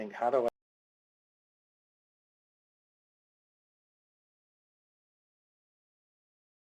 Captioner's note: audio cuts out